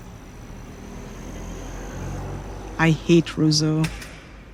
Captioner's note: bustling town life